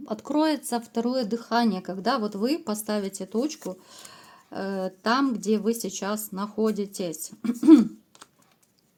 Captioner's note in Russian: откашливается